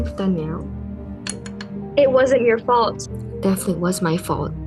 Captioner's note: pencil drops